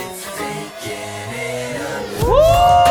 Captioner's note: bang!